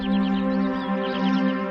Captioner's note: birds chirping